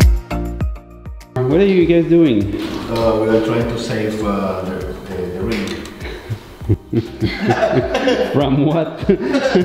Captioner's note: laugh